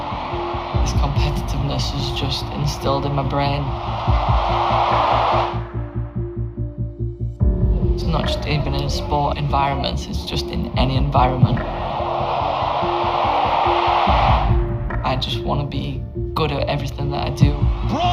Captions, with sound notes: This competitiveness is just instilled in my brain. It's not just even in a sport environment it's just in any environment. (stadium cheers) I just want to be good at everything that I do.